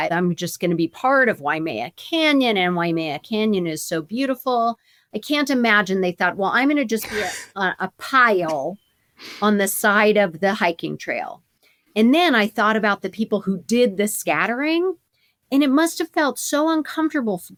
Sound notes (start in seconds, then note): 7.0 chuckles